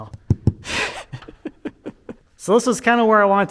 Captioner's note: laughing